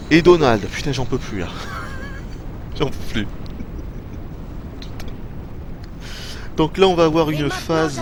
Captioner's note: laughs almost silently